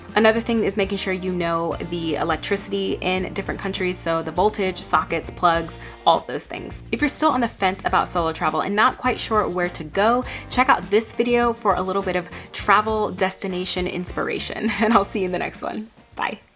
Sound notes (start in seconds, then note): 14.7 chuckles